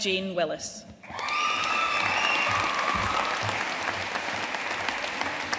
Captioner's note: audience cheering and applauding